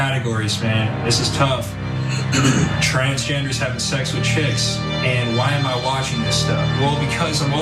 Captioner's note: cough